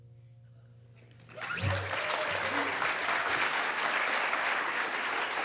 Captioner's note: audience applauding